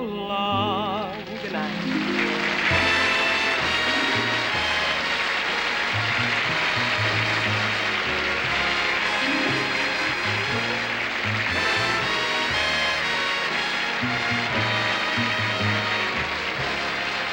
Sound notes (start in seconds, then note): 1.9 applause; 3.6 theme music